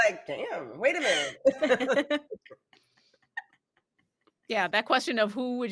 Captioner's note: all laughing